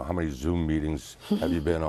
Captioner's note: laughs